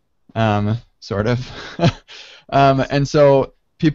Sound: laughs

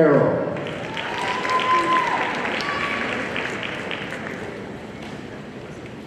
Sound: audience cheering and applauding

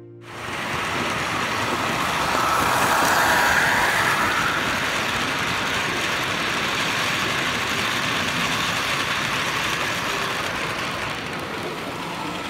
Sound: locomotive sound

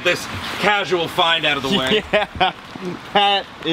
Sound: man laughs

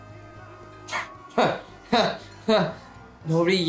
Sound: chuckles; scoffs

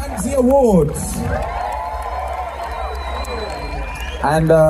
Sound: cheering

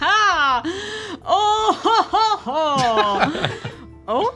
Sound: cackles

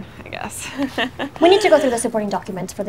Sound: nervous chuckling

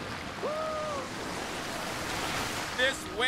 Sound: wave crashing

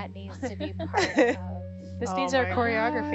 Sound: group chatting; women laughing

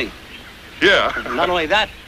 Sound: laughs

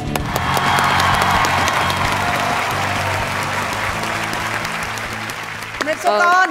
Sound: cheer and applause

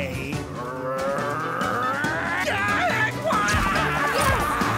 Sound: roaring

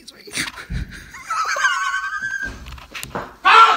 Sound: laughing

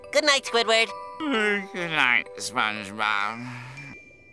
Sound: yawning

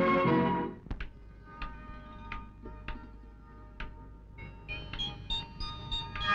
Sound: switch clicks

